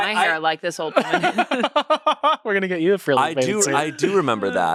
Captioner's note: laughs